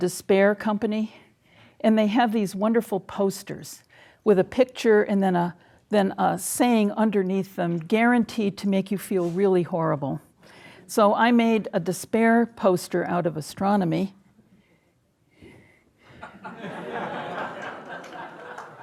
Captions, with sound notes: You know the Despair company? And they have these wonderful posters with a picture and then a saying underneath them, guaranteed to make you feel really horrible. So I made a despair poster out of astronomy. (audience laughing)